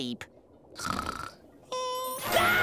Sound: snoring; screaming

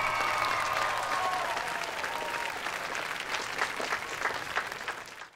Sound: cheering, applauding

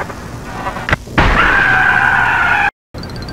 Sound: screaming!

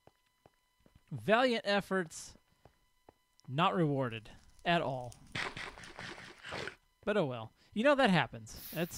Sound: crackling fire

